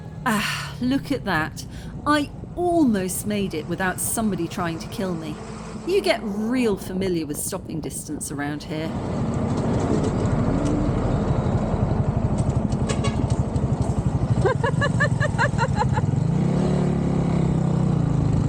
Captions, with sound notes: Ah, look at that. I almost made it without somebody trying to kill me. You get real familiar with stopping distance around here. [traffic noise] [truck horn] [laughing]